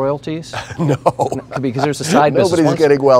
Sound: laughing

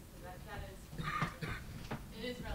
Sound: cough drowns out speaker

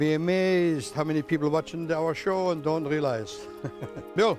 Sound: laughs

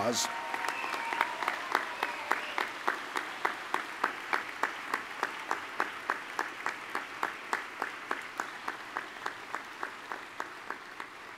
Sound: applause

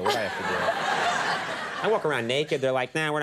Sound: audience laughing

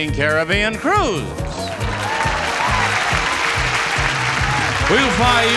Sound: audience applaudnig

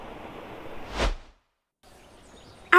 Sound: transitional whoosh

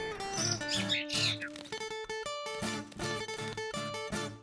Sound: bird chirping

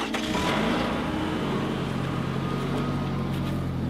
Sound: car door shutting; car engine running

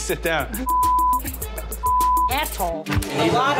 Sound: beep

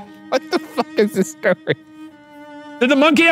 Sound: laughing

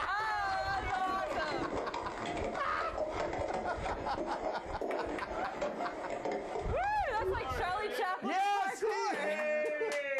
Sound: rustling noises

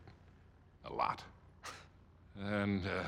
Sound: laugh

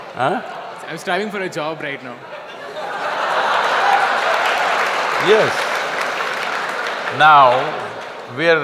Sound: laughter\Applause

